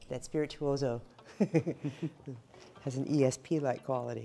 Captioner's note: laughter